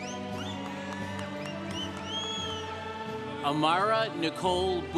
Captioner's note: congregation cheering